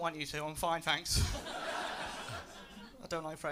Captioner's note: laughter